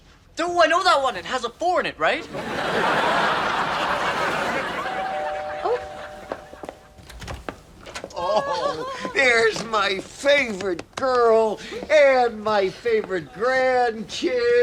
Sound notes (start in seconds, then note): 2.1 audience laughs; 5.0 doorbell rings